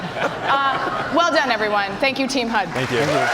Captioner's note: cheers and applause